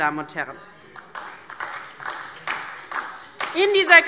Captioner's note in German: Beifall DIE LINKE